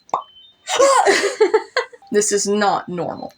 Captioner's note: laugh